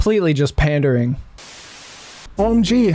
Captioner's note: static